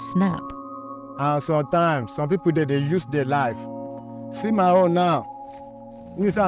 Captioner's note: speaking in foreign language